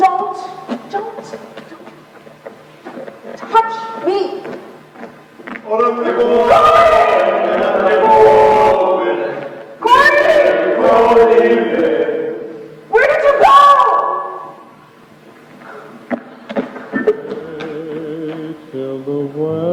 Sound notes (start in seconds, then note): 5.6 voices offstage